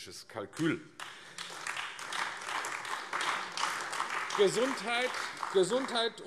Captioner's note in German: Beifall AfD